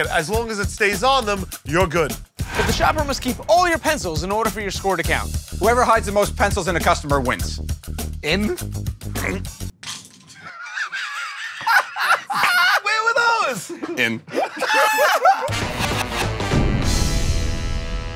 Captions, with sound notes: As long as it stays on them, you're good. But the shopper must keep all your pencils in order for your score to count. Whoever hides the most pencils in a customer wins. "In"? [ Grunts ] [ Laughter ] Where were those?! In. [ Laughter ]